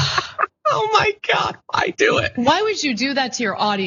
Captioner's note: laugh